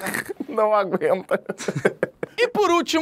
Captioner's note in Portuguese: risadas